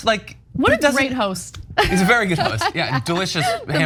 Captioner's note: laugh